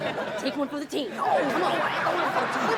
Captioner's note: audience laughs